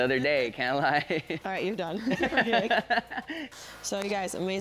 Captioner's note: laughs